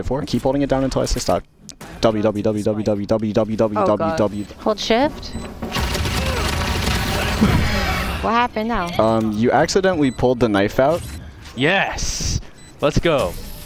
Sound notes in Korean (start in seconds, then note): 7.3 웃음